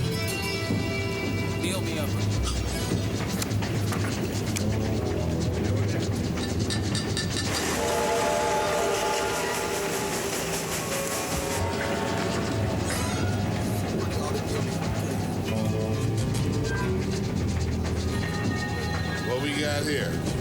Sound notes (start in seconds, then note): 7.4 train whistle blowing; 17.5 dramatic music